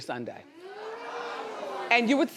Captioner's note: audience oohing